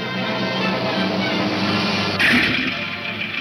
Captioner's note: engine rumbling